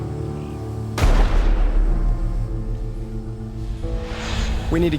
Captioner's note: gunfire booming